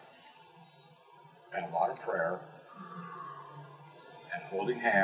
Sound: exhale

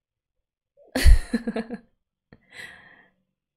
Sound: laughs

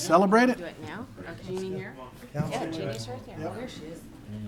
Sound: chattering

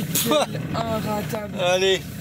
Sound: laughs

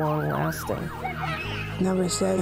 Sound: police sirens

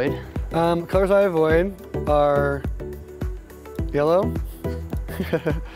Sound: laughs

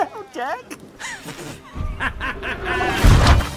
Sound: laughter

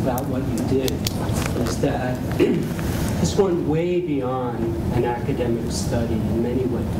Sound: cough

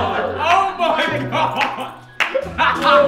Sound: laughs; Sidemen laughing

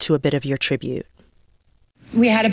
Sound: soundbite of archived recording

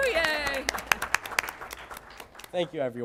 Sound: applause

